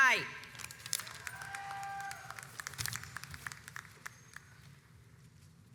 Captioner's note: audience applauds